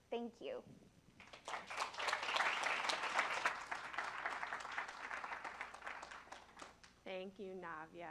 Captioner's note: applause